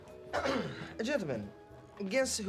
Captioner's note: clears throat